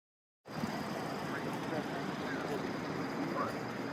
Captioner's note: traffic whirring